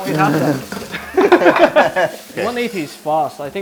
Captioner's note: laughter